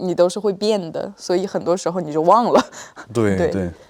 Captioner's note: laughs